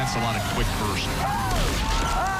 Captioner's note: crowd groans